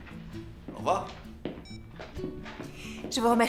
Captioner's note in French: le téléphone émet un bip